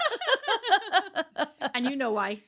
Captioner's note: laughing